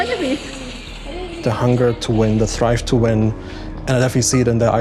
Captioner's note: in English